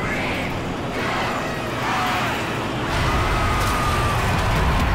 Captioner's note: cheering